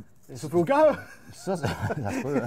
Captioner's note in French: rire